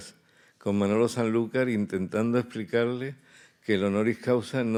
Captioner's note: speaking in Spanish